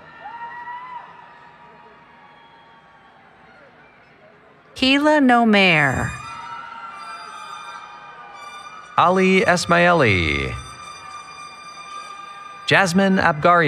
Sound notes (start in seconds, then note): 0.0 cheering; 6.1 cheering